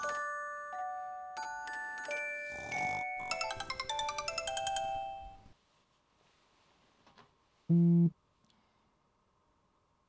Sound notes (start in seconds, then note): 0.2 snoring; 1.9 snoring and lullaby are interrupted by ringtone; 7.7 phone vibrates